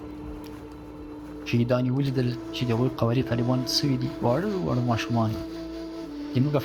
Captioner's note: speaking foreign language